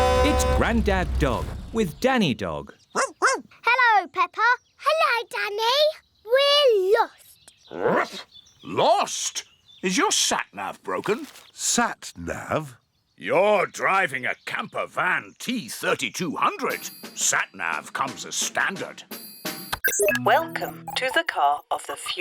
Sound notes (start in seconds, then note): 2.9 barking; 7.1 barks